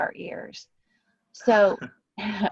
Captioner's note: laughter